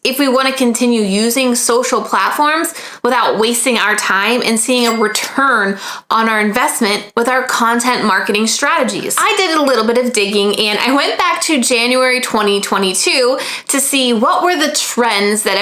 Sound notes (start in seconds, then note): 4.8 bell chiming